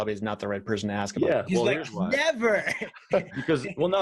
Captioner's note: laughs